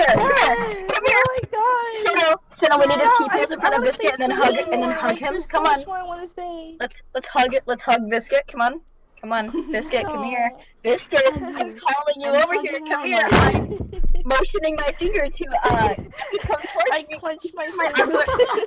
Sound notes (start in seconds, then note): 11.2 soft chuckle; 13.3 more soft chuckles